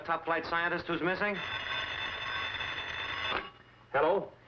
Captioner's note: phone ringing